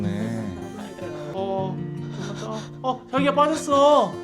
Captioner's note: suddenly burst out laughing